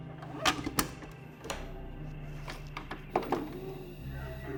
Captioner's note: VCR clicks and whirs